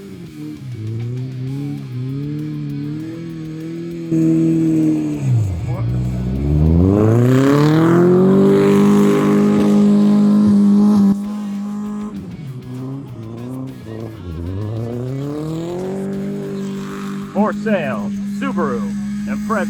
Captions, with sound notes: (engine revving) (speaking foreign language) (engine revving) (speaking foreign language) Something about luigi boards BOARD (speaking foreign language) (engine revving) (speaking foreign language)